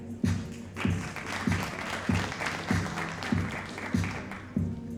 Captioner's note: audience applauding